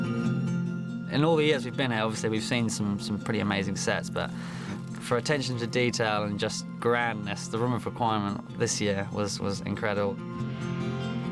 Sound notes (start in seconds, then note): none